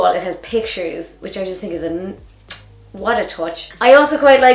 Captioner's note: smooches